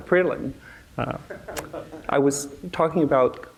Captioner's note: audience laughing